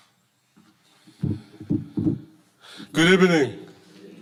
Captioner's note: microphone thudding